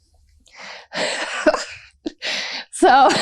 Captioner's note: laughter